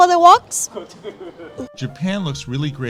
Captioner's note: man laughs